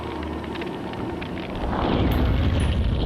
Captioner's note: fire crackling; woosh